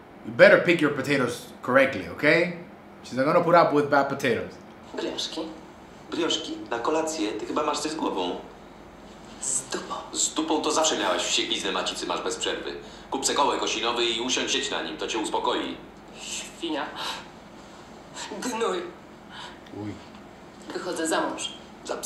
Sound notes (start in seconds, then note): 5.7 foreign language